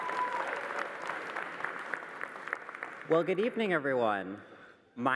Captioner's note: cheering and applause